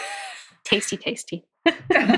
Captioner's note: laughing